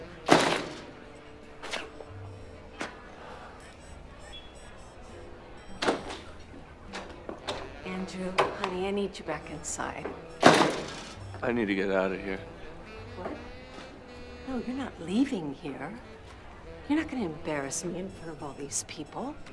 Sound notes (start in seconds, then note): 0.2 door slams shut; 5.7 door rattling; 10.4 door slams